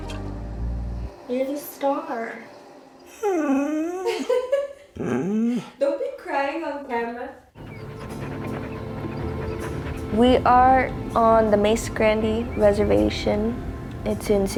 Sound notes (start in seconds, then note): 2.3 dog whimpering; 3.9 laughing